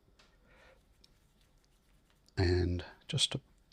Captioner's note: silence